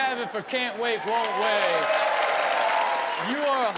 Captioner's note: audience applauds